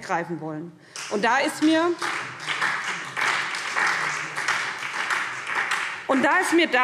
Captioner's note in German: Beifall Freie Demokraten